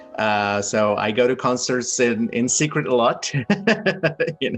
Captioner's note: laughs